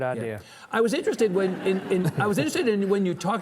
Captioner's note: audience chuckling